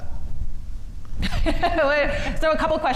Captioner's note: laughs